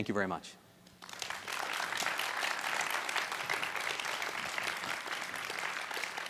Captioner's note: audience applause